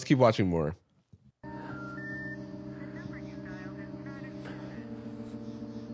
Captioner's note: phone call beeping